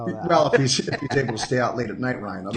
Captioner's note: laughing